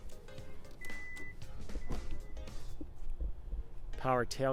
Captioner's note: beeps